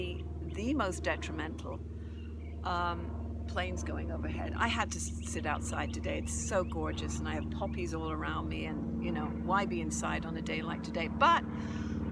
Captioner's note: planes going overhead